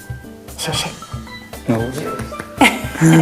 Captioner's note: clapping his hands